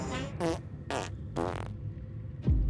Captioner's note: fart noises